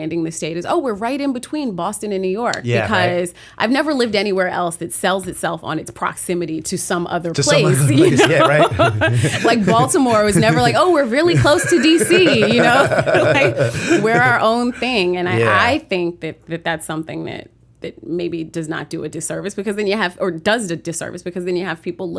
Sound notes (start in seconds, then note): 9.0 laughter; 12.3 laughter